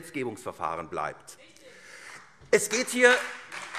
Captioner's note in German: Beifall SPD und Freie Demokraten